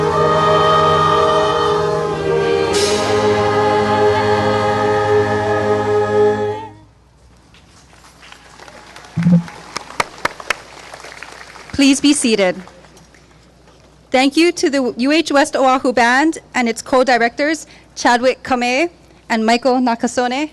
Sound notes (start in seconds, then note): 8.2 clapping